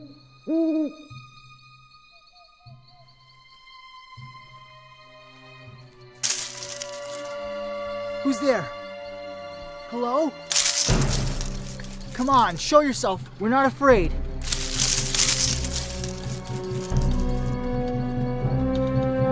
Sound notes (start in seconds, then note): 0.2 suspenseful orchestral music; 6.2 leaves rustling; 14.4 leaves rustling; 15.5 tense orchestral music